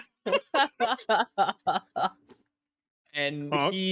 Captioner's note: players laughing